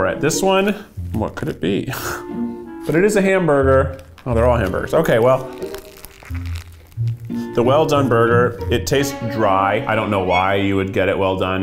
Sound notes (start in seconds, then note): 6.8 crunching